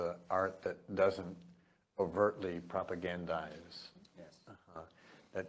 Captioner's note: none